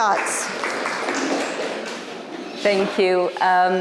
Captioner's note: audience applauds